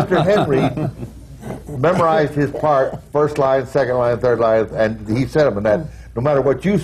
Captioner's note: laughter